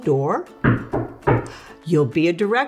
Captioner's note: door knocking